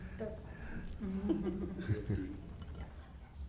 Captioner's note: chuckling